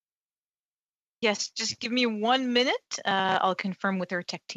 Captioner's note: speaking in French